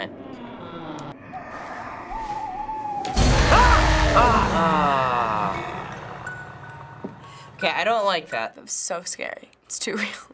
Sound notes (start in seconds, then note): 0.1 faint noises, owl hoots; 0.2 door creaks; 3.1 screams